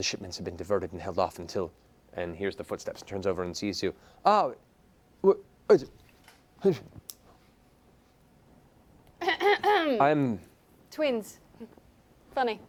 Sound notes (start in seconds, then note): 4.6 confused sounds; 8.4 clears throat